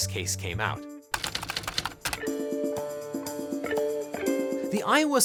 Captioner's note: relaxed music; typewriter clicks